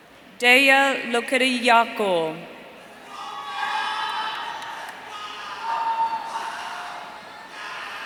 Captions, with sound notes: Derya Lokitiyakul. (audience cheering)